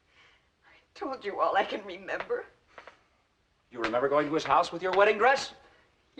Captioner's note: none